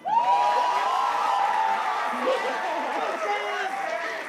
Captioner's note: cheers, applause